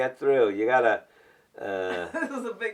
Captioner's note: laughs